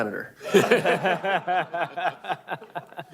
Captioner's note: laughter